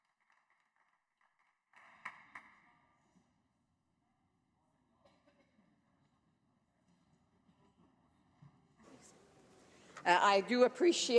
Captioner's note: some Applause